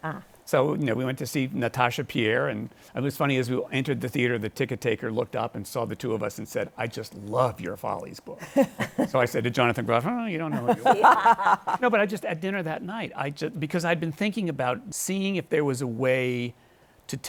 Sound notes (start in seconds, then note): 8.4 chuckles; 10.5 laughter